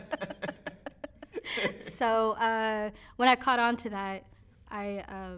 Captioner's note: both laughing